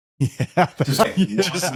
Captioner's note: laughing